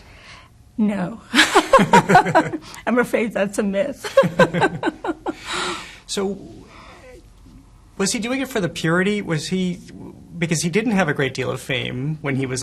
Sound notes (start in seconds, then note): 1.4 laughs; 4.1 laughs